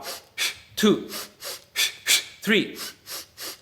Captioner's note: air hisses